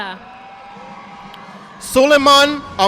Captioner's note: audience applauding